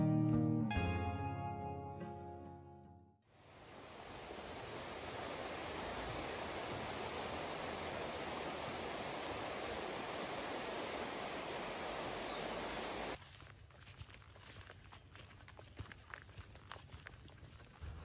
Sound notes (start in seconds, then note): 5.6 running water; 13.1 little doggy footsteps